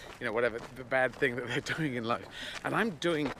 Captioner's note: laughing